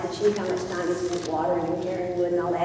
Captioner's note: none